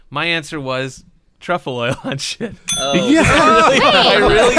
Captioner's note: bell ding